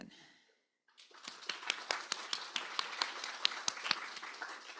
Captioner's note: applause